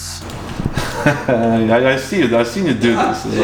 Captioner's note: laughing